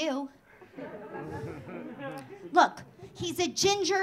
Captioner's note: audience laughing